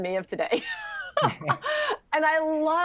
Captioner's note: laughter